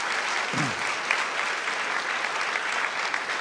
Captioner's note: applause